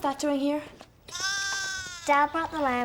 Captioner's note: lamb bleats